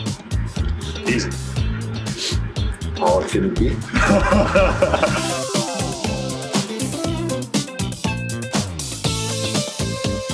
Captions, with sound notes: - Easy. - How hard could it be? (cheery techno music) (all laughing)